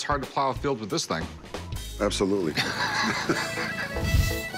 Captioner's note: laughs